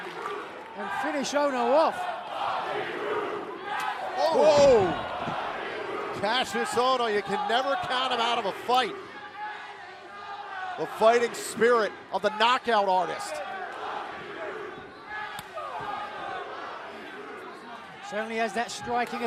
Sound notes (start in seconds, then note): 2.7 crowd cheering